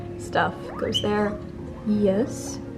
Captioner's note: Cesario wheeks